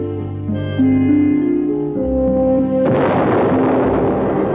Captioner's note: cannon firing